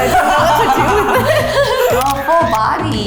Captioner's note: all laugh